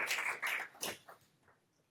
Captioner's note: applause